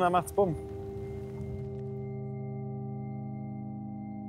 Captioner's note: pensive sounds